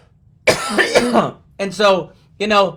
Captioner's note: coughs